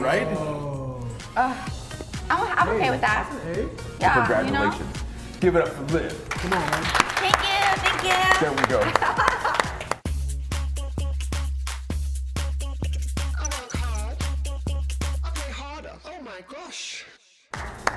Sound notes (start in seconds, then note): 6.2 applause